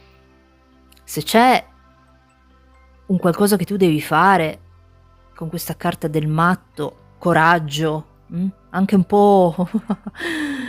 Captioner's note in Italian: Risate